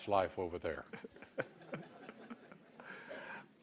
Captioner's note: laughter